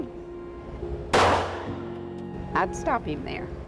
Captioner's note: gunshot